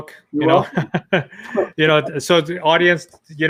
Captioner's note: laughs